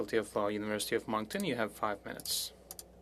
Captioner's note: speaking French